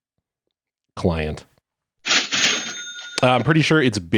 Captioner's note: cash register sound